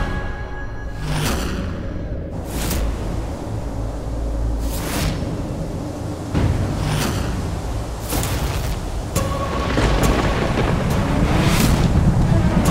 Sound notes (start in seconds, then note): 2.3 wind blowing; 9.5 motorcycle revving